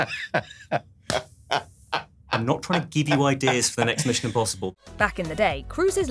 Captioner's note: laughing